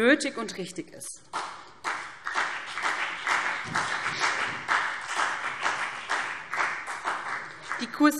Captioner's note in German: Beifall BÜNDNIS 90/DIE GRÜNEN und CDU